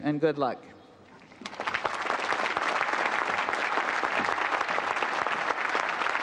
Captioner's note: applause